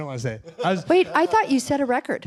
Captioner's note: laughter